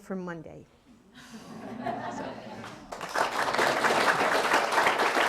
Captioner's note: audience applauding